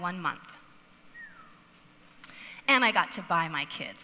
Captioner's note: audience member whistles